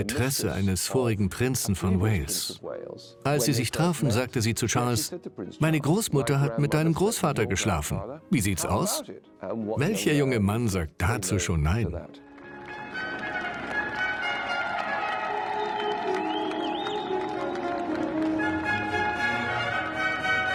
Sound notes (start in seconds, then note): 12.6 crowd cheering; 17.4 regal instrumental music